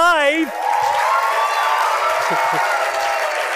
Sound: applause; laughs

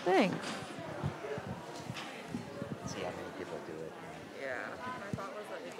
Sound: background chattering

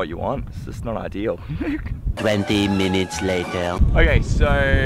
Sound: laughs

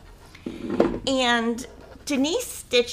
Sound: board clanking

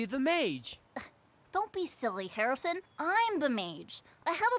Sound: scoffs

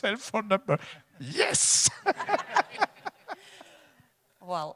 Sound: laughs; audience laughs

